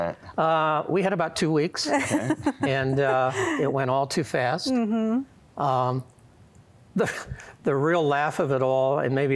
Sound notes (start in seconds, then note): 1.8 giggling